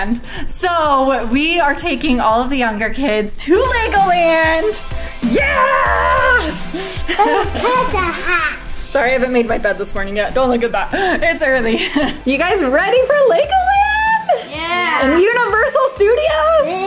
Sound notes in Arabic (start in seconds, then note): 5.4 موسيقى مثيرة; 8.4 صرير طفل